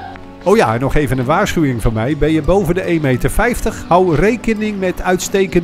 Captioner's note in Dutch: Voiceover